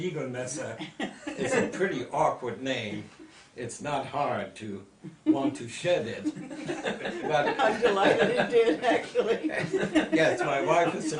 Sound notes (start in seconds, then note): 6.2 group laughter